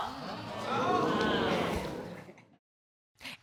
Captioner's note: audience exclaiming